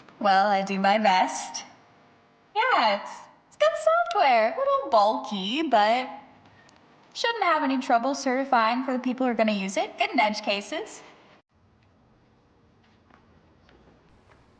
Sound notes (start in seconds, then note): none